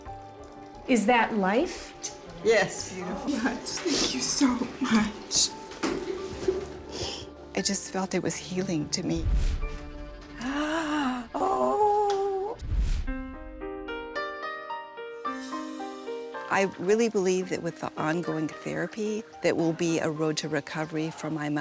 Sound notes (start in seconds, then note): 12.4 gasps